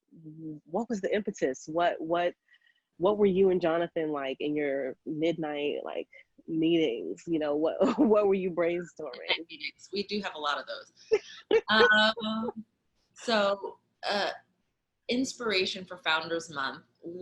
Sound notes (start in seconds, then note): 11.2 laughing